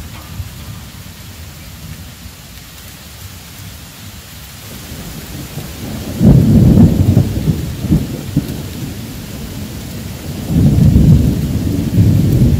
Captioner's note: rain Pouring; rumbling Thunder